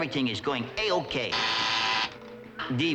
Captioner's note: buzzer